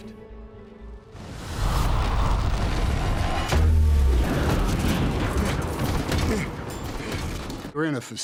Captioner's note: strong winds